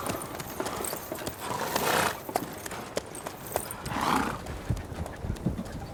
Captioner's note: horse snorts